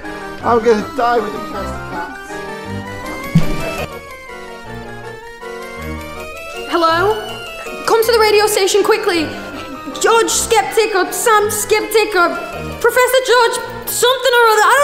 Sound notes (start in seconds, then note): 3.3 thud